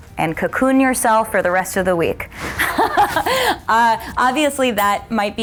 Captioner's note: laughs